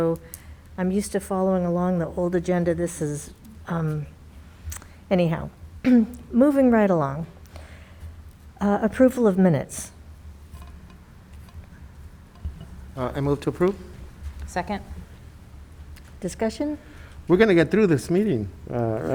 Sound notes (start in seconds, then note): 5.8 clears throat